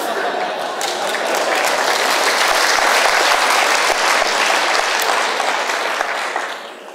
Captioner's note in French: Applaudissements